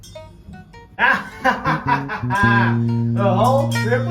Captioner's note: victorious laugh